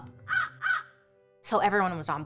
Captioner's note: crow cawing